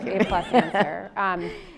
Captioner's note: laughs